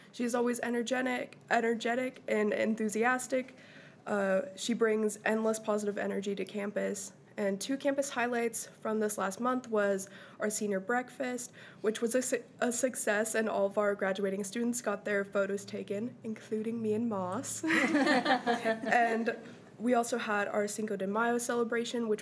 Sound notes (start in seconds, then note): 17.7 crowd giggling